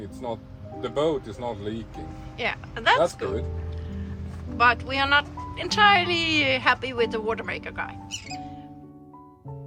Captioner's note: seagull